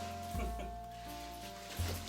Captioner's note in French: gloussements